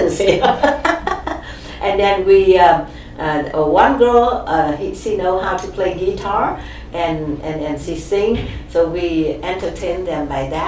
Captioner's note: laughs